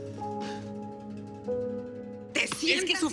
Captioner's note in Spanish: Sollozos